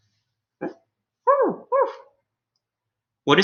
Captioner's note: Alien Space Doggy barks